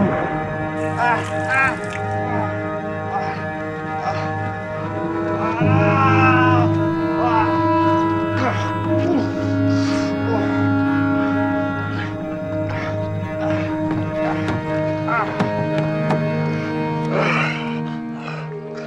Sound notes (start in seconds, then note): 2.6 exclamations; 5.0 crying out; 17.0 groaning